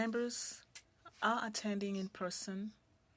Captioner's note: speaking French